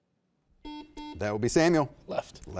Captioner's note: buzzer beeping